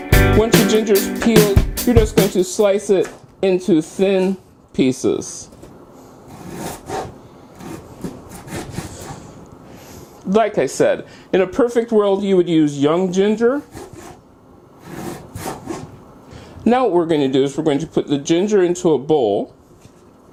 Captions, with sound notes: Once your ginger is peeled you are just going to slice it into thin pieces. [ slicing sounds ] Like I said, in a perfect world you would use young ginger. Now what we are going to do is put the ginger into a bowl.